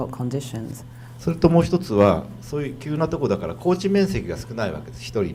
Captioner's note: speaking foreign language